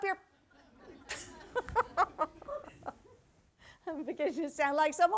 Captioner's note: laughs